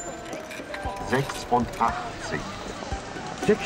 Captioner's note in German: Computerstimme